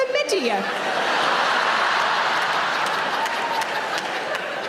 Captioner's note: audience laughing